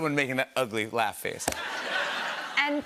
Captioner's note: laughter